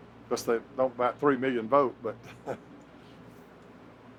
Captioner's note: laughs